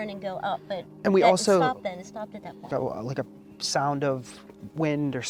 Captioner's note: laughs